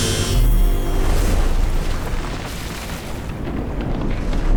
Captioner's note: imploding sound